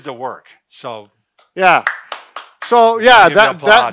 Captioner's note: clapping